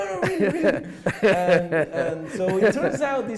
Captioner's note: laughs